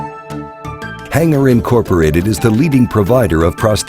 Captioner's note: voiceover